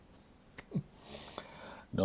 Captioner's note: chuckles